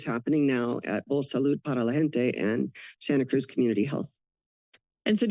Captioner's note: foreign language